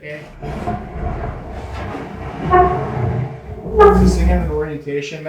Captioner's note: stone slab scraping